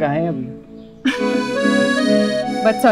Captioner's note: Laughs